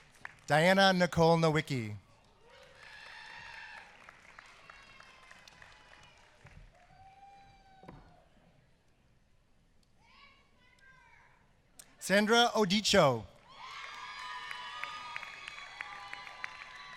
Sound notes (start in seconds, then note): 2.6 applause; 13.4 applause